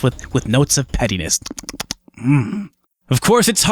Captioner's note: lip smacking